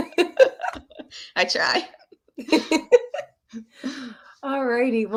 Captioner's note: chuckling; chuckles